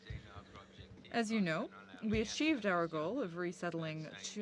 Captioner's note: speaking French